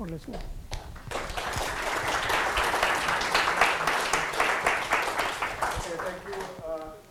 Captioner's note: applause